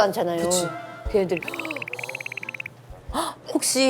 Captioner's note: shivering